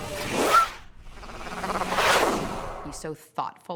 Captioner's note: whooshing